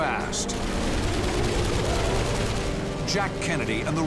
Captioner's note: gunfire